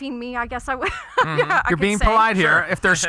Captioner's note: laughs